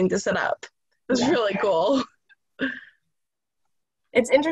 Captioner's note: laughter